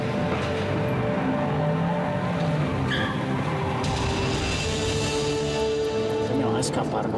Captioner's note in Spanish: ruido del motor de los autos